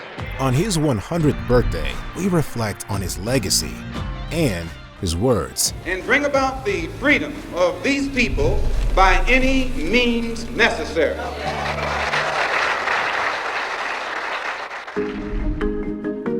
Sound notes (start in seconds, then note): 11.4 applause